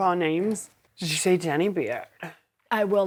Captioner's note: american accent